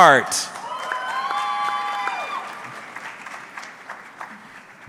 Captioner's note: audience cheering